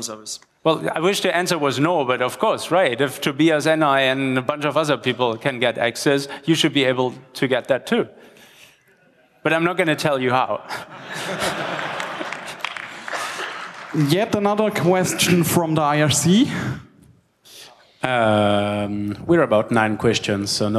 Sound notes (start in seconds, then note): 10.8 laughter and applause